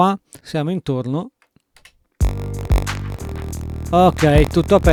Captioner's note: crackles